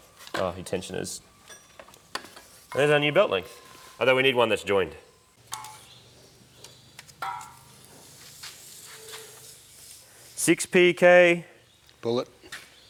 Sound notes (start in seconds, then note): 5.3 tape measure sound